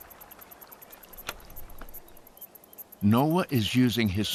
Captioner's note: insects chirping